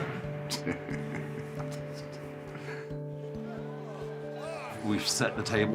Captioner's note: laughs